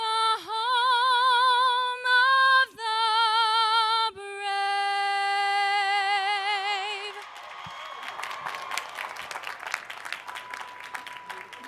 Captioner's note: applause